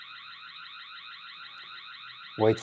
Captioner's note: alarm beeping